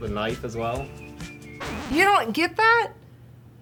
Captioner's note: record scratch